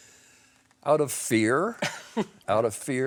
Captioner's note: chuckles